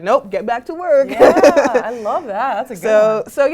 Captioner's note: laugh